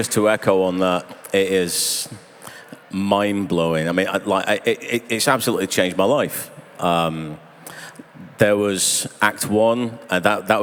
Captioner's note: applause